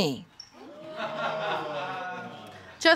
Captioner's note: audience laughs